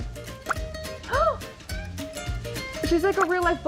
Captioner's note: woman gasps